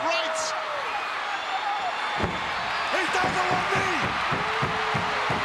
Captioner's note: applause